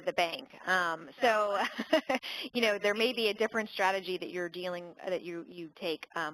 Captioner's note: laugh